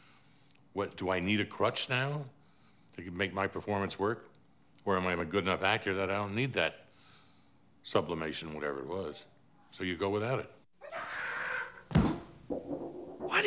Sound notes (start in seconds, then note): 10.8 scream; 11.9 thump